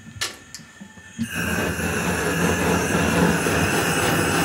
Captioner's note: hissing, flinging noise